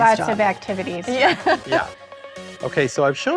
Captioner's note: laughs